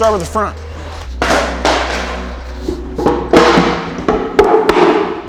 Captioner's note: boards clattering